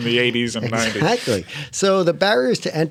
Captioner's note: laughter